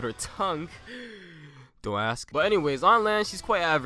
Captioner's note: inhales